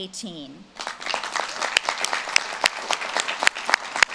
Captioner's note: audience claps